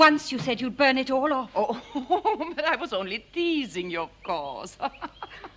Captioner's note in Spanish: Risas